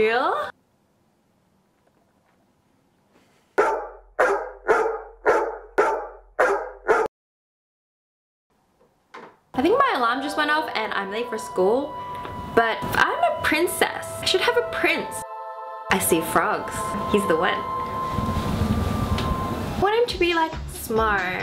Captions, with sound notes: *Silence* [DOG BARKS] I think my alarm just went off and I'm late for school! But... I'm a princess I should have a prince! I see frogs! He's the one! I want him to be like... Smart...